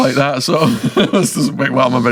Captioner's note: laughing